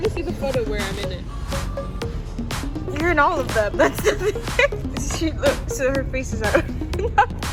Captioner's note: laughs